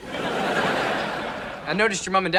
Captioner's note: laughs